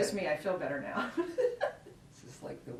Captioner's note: laughs